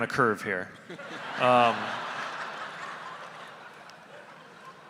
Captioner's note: audience laughing